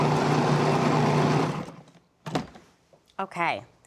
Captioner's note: whirring; whirring stops